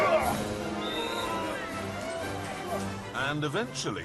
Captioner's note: whistle